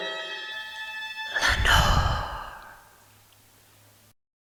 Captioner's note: whispering